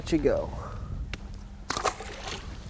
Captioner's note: splash